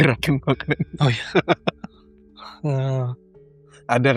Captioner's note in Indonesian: tertawa